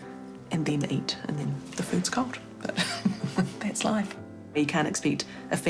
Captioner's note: chuckles